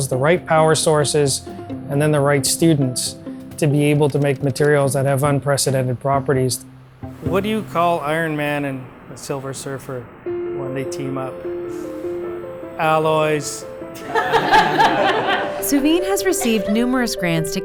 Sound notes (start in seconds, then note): 13.9 laughing